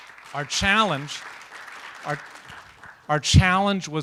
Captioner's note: applause